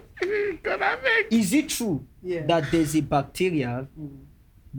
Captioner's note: both laugh